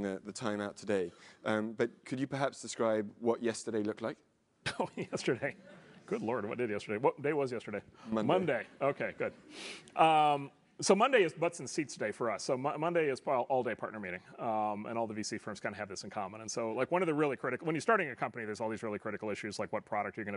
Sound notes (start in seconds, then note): 4.7 laugh